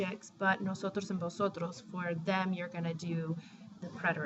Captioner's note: spanish